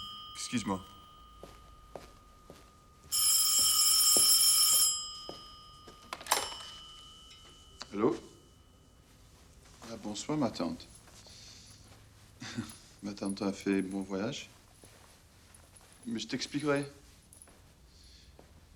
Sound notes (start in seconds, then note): 3.4 ring!